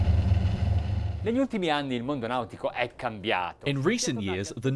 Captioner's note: speaking foreign language